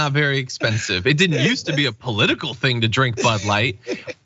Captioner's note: laugh